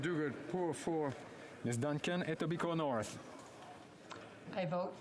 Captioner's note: speaking French